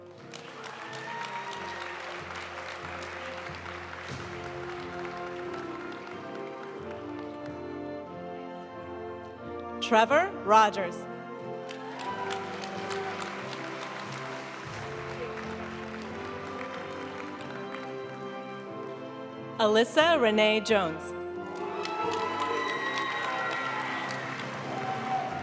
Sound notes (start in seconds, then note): 0.0 audience cheering and applauding; 3.9 graduation music; 11.6 audience cheering and applauding; 15.4 graduation music; 21.4 audience cheering and applauding; 25.1 graduation music